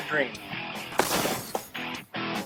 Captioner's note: smash